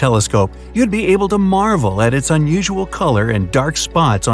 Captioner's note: breathing heavily